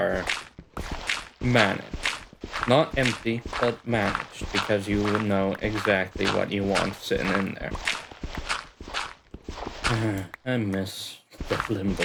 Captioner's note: sigh